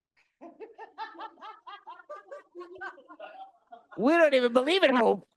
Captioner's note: laughing